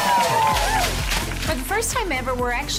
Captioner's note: team cheering